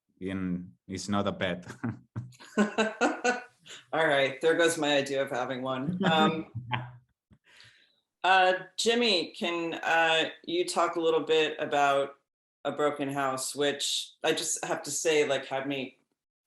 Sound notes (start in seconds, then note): 2.4 laughs